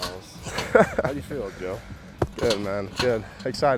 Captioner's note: chuckling